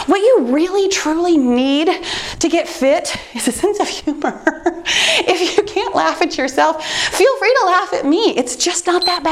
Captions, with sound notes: What you really truly need to get fit is a sense of humor. (laughing) If you can't laugh at yourself, feel free to laugh at me. It's just not that bad.